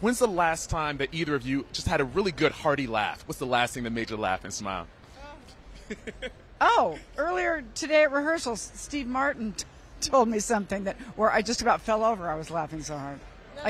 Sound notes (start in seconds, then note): 5.8 laughs